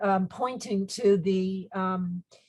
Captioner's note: speaks in foreign language